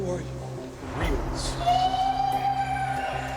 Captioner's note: shouting